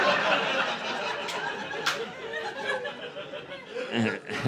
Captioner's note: laughter